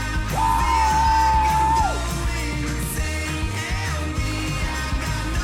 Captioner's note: Moe and Howie screaming